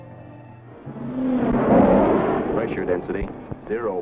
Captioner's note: jet roaring